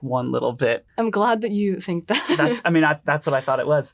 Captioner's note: laughs